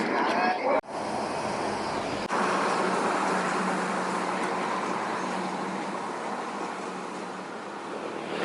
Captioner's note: highway noise